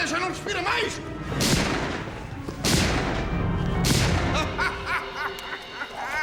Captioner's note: shots